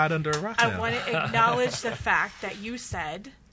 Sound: laughs

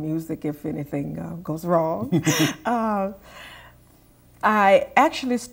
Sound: laughter

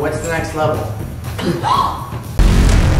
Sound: gasps

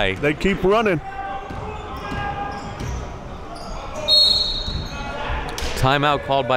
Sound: whistle blows

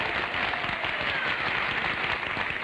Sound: applause

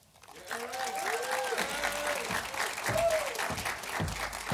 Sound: audience applauding

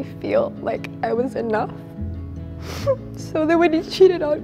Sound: crying

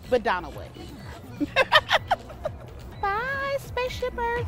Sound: laughs

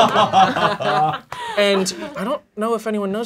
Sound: laughing

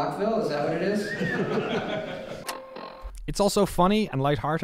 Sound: whistling and laughter

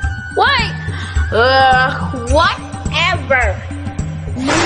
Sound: sighs

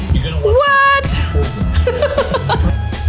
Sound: laughter

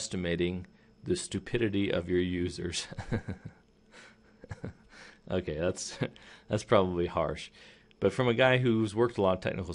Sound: laughing

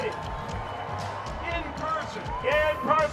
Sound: crowd cheering

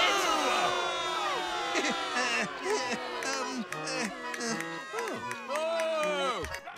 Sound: stuttering

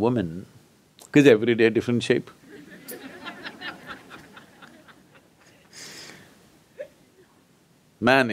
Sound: laughter

